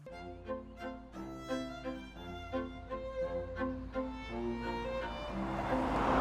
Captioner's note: gentle classical music; engine rumbling